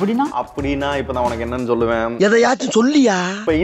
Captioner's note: scratching head